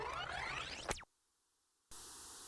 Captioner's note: rewind sound of an old tape